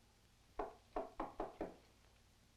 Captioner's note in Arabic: طرق